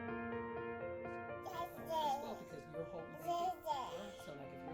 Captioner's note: gentle music; child babbling